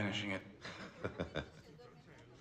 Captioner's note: laughing